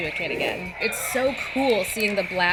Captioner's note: lightsaber sound